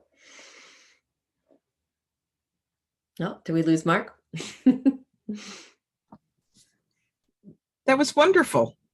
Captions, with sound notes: Oh, did we lose Mark? [chuckles] That was wonderful.